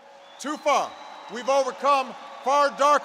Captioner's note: applause